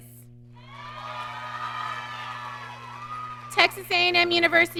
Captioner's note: audience cheering